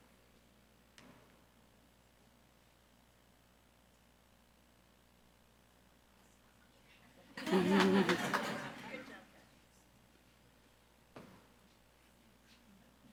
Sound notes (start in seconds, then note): 7.3 audience laughs